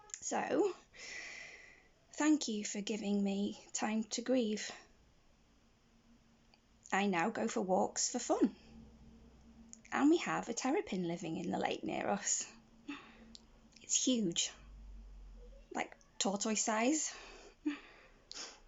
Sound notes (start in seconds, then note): none